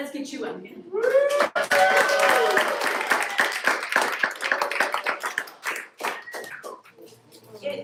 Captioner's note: applause